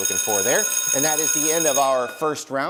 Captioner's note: bell rings